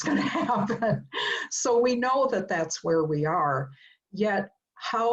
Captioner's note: laugh